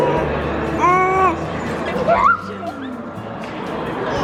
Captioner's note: babbles